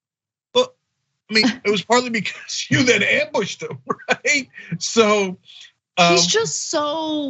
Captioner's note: laugh